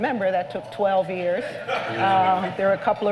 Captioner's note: laughter